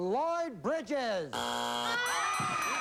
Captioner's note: buzzer